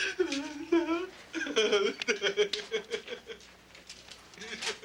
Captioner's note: Casey crying